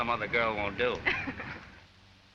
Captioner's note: chuckles